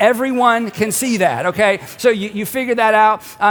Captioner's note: congregation laughs